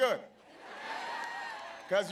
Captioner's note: laughter